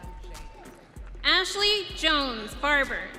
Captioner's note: audience cheering